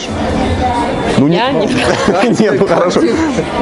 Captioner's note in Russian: смех